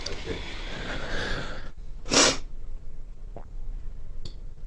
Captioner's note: sniffling